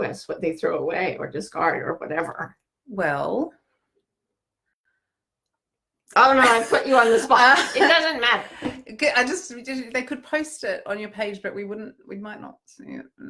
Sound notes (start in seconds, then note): 6.4 laughing